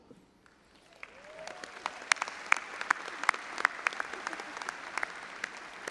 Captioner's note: all applauding and audience cheering